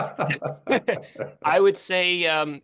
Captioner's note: laugh